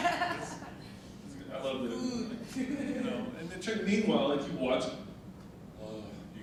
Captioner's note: audience and panel laughing; groans